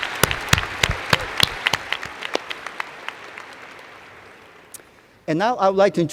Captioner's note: applause